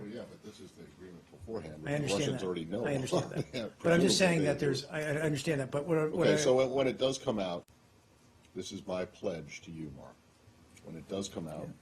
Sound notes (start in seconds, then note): 3.0 laughter